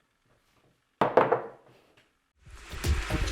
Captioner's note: cups clattering; upbeat music